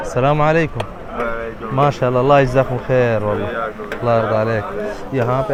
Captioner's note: Arabic